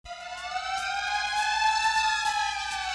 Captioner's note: siren